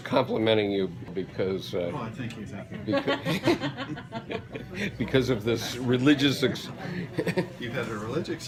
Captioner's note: laughter